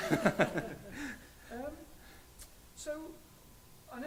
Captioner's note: laughs